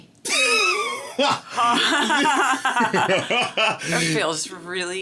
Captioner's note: laughing